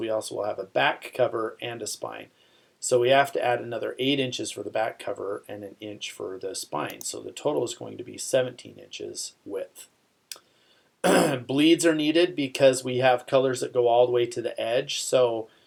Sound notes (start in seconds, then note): 11.0 clears throat